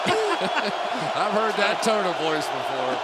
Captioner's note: laughter